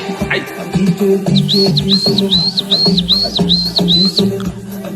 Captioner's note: whistle